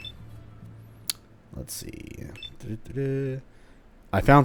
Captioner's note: think humming